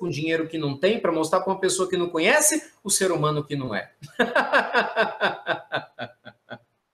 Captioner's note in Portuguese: risadas